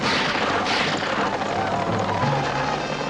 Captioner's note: war cries